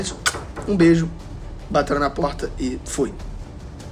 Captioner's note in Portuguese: alguém bateu na porta